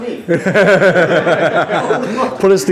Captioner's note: laughs